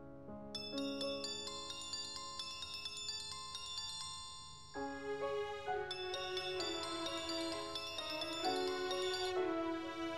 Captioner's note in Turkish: Telefon çalıyor